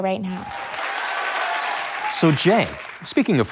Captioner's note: audience cheers